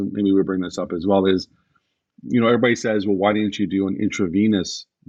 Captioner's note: none